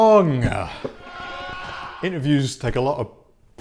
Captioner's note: groaning sound effect